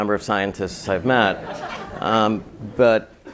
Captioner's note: laugh